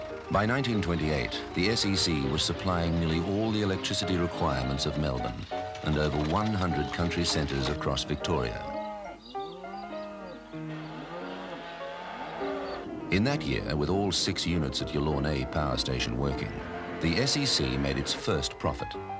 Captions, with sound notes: By 1928, the SEC was supplying nearly all the electricity requirements of Melbourne, and over 100 country centres across Victoria. (cows mooing) In that year with all six units at Yallourn A Power Station working, the SEC made its first profit.